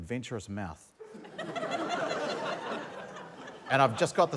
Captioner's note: laughter